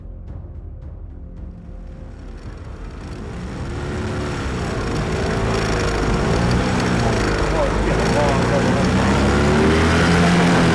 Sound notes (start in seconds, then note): 2.1 engine whirring